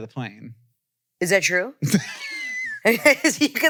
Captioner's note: laughs